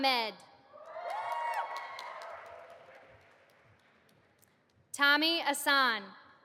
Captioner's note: audience applauding